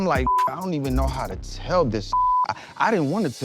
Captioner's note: beep